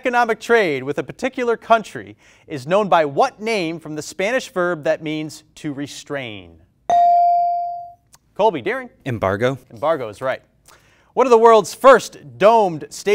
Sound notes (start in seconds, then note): 6.9 bell rings